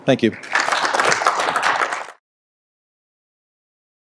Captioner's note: applause